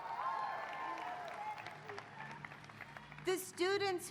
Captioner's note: applause